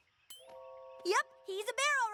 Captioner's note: tink!